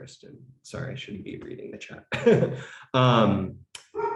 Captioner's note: laughs